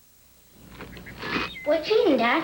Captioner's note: crunching cereal